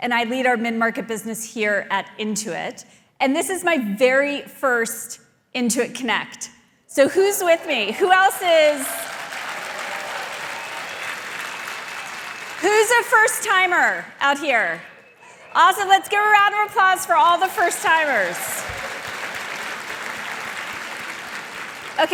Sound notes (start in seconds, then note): 8.9 audience applauding; 8.9 audience cheering; 18.6 audience applauding